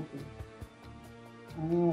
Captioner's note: woman2 speaking